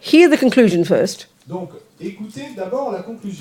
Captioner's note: French